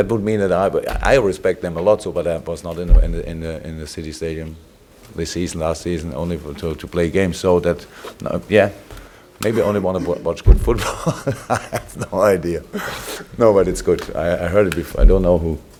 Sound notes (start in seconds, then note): 9.4 laughs